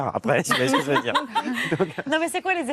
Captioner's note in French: rires